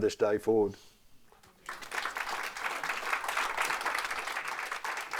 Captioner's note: audience applauding